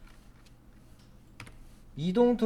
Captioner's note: silence